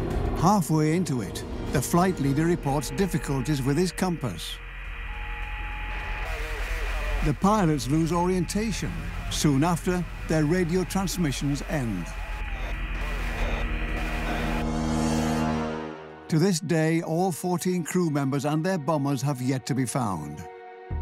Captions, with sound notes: Halfway into it, the flight leader reports difficulties with his compass. (radio crackles) The pilots lose orientation. Soon after, their radio transmissions end. (radio crackles drown out voices) To this day, all 14 crew members and their bombers have yet to be found.